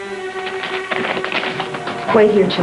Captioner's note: paper rustling